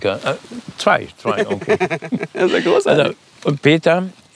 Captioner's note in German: kichernd